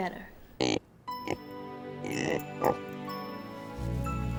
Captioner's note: snorting